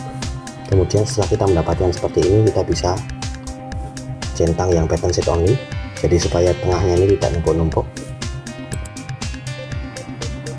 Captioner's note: click